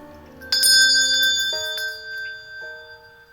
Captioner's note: rings bell